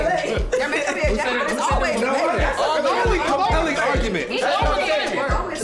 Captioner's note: arguing